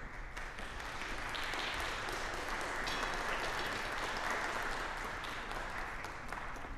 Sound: applause

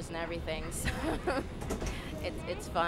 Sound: laughs

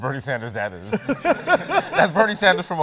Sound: laughter

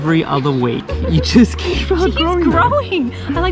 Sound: laughing

